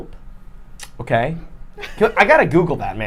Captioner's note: laughing